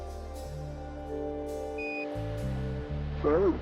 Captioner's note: beep